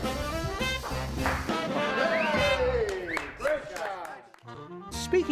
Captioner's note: cheers